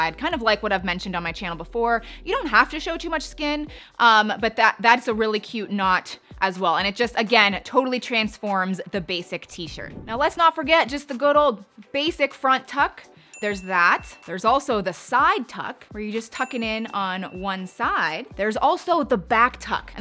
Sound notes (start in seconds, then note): 13.3 bell softly chiming